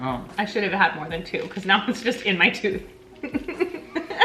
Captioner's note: laughs